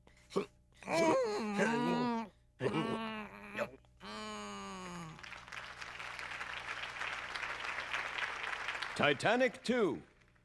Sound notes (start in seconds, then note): 0.1 gasping; 2.4 moaning; 5.1 audience applauding